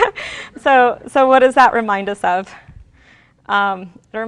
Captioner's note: laughs